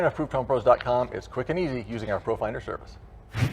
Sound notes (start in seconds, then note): 3.3 whooshing